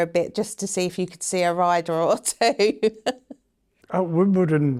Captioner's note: laughs